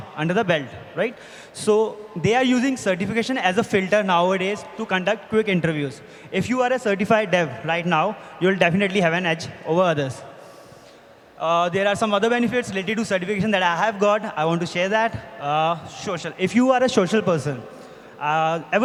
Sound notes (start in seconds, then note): none